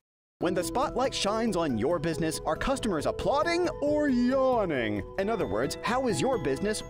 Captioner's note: voiceover